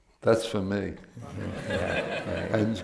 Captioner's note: laughter